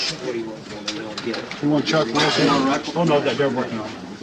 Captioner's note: crowd chatting